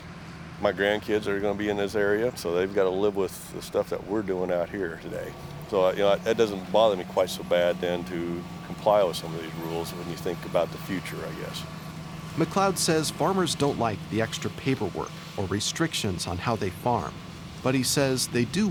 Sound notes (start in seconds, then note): 12.5 voiceover